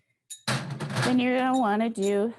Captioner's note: bangs